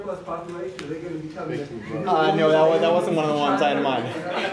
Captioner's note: laughter